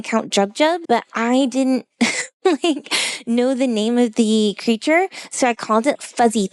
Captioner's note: laughs